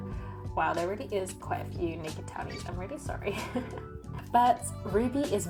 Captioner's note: laughs